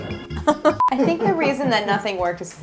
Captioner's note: laughs; camera beeps